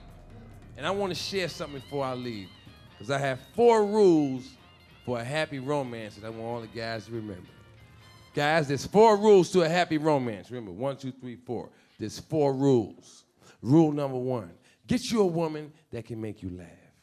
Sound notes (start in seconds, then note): none